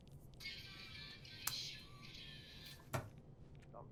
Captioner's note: musical ring tone